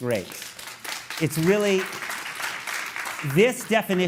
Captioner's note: applause